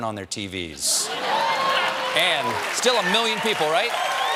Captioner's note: cheers and applause